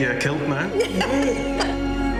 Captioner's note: laughs